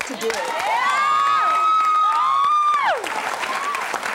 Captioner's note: cheering